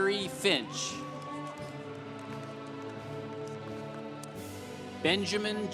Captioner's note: congregation applauding